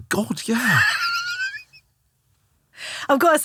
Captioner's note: laughing